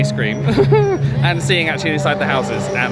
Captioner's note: laughs nervously